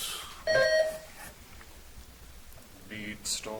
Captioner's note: buzzer chimes